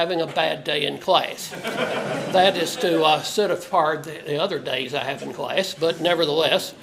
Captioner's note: laugh